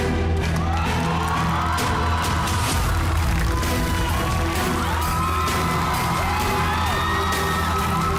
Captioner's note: crowd cheering, applauding